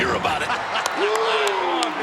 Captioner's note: Vince laughing